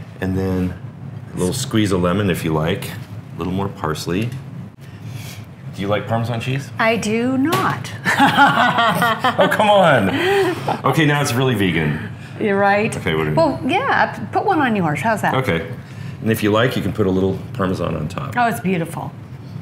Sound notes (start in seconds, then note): 8.0 laughing